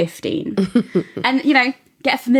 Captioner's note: laughing